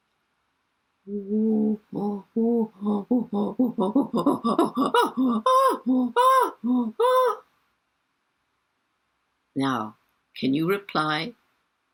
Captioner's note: chimpanzee sound